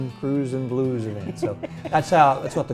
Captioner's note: laughs